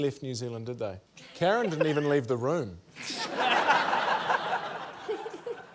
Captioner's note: laughter